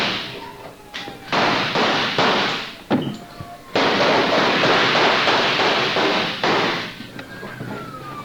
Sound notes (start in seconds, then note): 0.0 more gunfire; 0.0 officers shouting; 1.3 gunfire continues